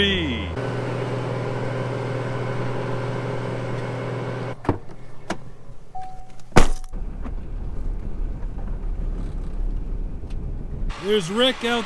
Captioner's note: tractor sound